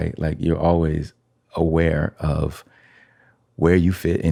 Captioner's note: none